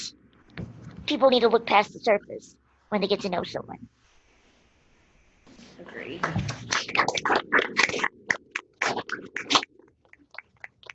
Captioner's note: applause